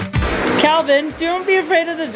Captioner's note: vacuuming